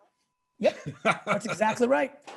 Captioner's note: laughing